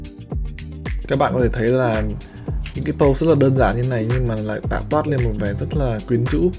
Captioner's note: speaks in a foreign language